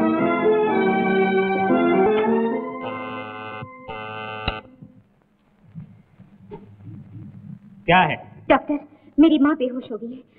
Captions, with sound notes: (Door Bell rings) What is the matter? - Suddenly my mother fell unconscious..